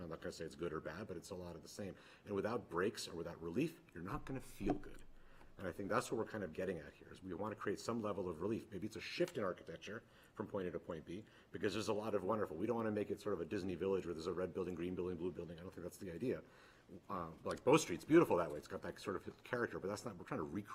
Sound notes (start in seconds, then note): none